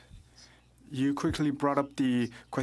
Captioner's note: speaking French